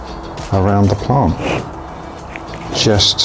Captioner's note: pot grinding